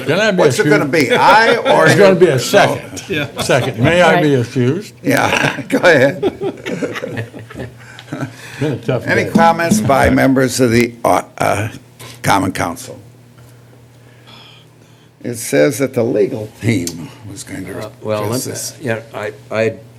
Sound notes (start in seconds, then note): 4.7 laughter